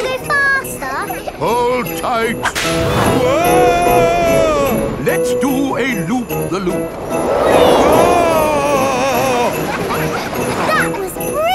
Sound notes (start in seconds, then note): 8.8 screaming; 10.0 children laughing